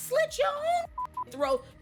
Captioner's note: beep